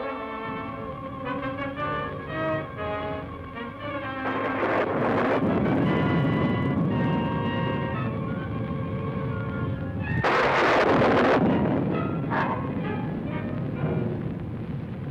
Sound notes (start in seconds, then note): 0.2 thunder rumbling; 3.8 thunder crashing; 9.6 thunder crashing; 11.8 wolfman growling